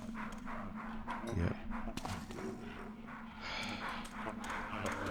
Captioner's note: sighs